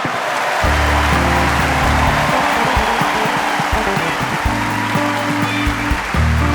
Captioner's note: audience laughing; audience applauding; upbeat music